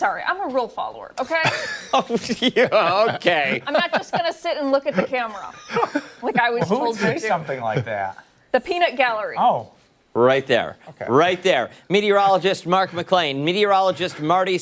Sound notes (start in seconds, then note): 5.6 laughter